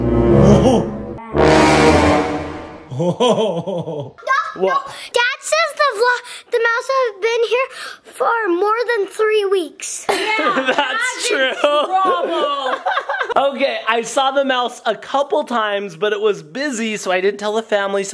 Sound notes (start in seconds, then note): 0.0 suspenseful music; 2.9 laughing